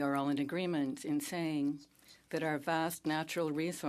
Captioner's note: speaking French